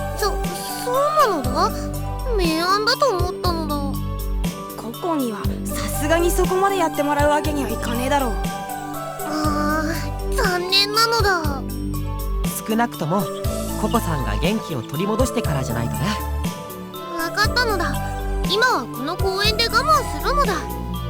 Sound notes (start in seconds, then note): 10.0 disapproving groan